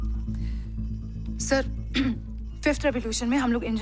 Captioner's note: clears throat